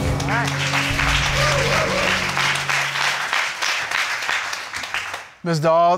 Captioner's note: crowd applauding